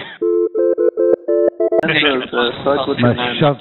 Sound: phone rings

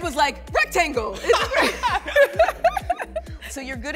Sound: challengers laugh

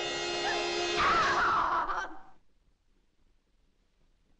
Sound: suspenseful music; Madelon cries out

